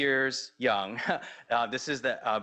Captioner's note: laughs